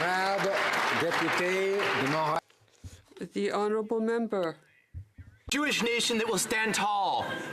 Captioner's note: some Applause